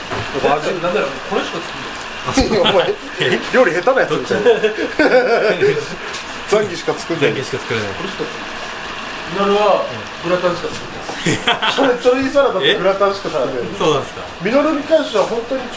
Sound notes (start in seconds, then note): 5.4 laughs